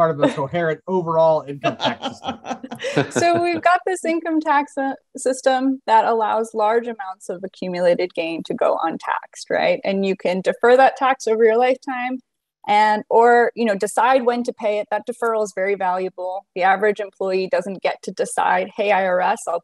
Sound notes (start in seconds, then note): 1.4 laughing